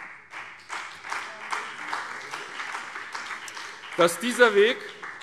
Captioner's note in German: Beifall BÜNDNIS 90/DIE GRÜNEN